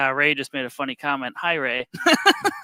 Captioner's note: laughs